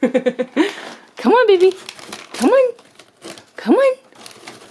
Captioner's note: laughs; plastic bag rustling